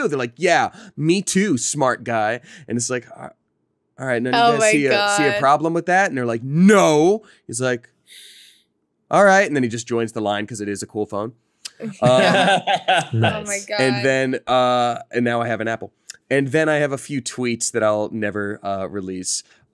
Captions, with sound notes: They're like, yeah me too smart guy and it's like, all right none of you see a problem with that? And they're like, no. He's like, all right and then he just joins the line cause it is a cool phone. (laughs) And then and now I have an Apple. And then I have a few tweets that I'll never release.